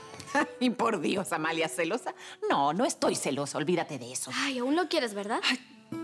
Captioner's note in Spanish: Risas